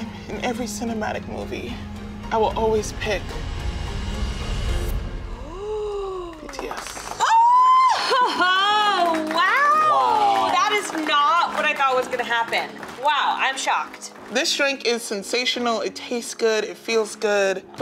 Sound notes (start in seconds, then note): 9.4 clapping